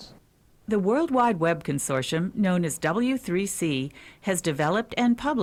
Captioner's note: voiceover